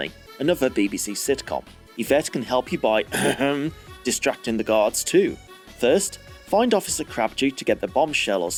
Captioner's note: ahem